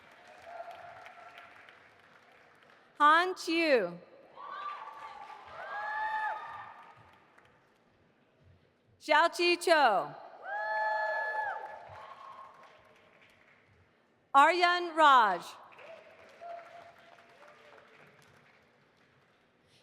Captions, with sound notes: (audience applauding) Han Qiu. (audience applauding) Xiaoqi Qiu. (audience cheering) Aryan Raj.